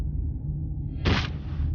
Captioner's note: splat